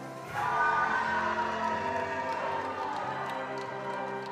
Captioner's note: attendees applauding